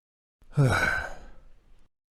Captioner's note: sigh